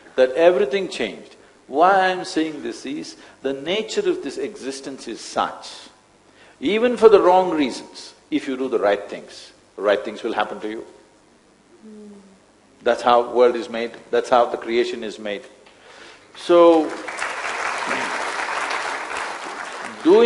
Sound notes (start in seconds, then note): 16.6 applause